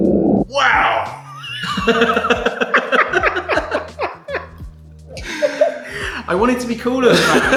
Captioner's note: laughter